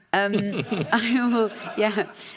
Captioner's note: laughs